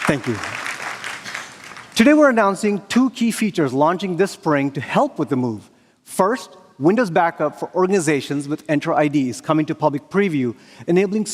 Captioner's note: applause